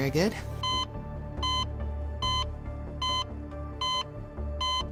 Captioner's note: heart monitor beeping